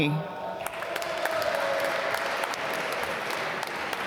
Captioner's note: applause